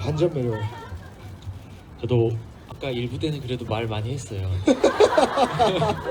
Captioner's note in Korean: 웃음